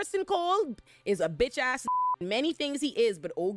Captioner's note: beep